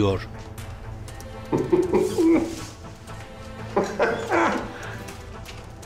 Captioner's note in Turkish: Gülme sesi